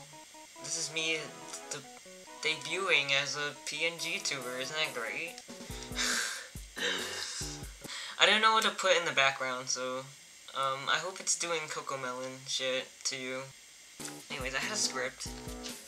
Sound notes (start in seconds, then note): 6.9 lightheartedly scoffs